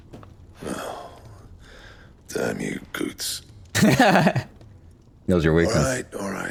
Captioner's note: laughter